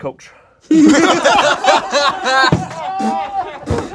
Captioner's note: group laughs